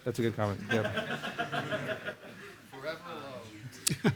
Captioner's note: laughter